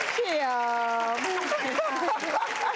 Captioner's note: audience applauding